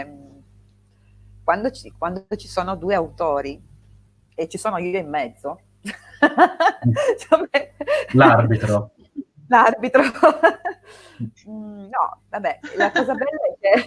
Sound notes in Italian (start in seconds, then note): 5.8 risate; 12.6 risate